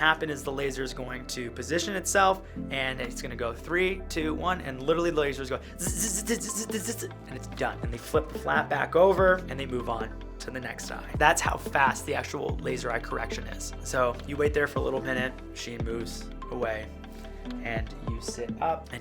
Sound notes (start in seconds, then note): 6.4 buzzes